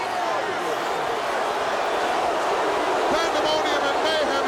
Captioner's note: crowd clamoring